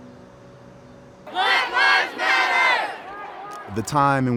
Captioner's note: people chanting